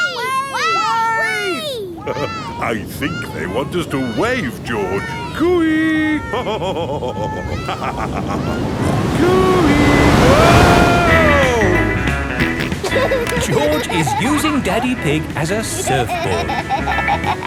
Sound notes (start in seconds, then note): 6.8 laughs; 12.3 snorts and laughs